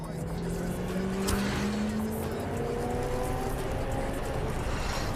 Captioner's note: car engine accelerates